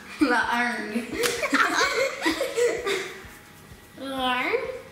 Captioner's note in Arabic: يضحك